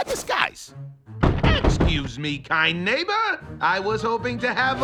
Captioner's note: knocking